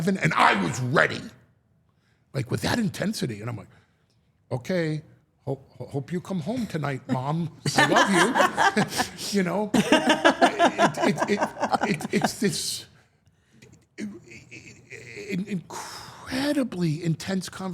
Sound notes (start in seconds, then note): 7.6 all laughing; 10.4 Steph and Elyse laughing